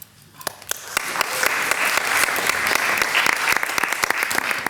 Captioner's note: people applauding